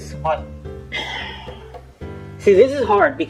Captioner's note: sighs